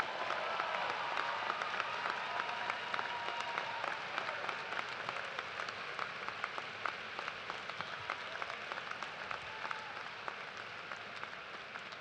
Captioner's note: cheers and applause